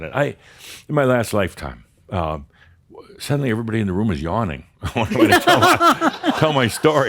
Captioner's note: laughter